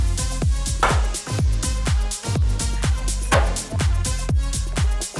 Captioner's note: banging continues